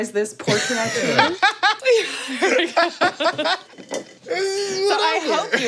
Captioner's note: laughs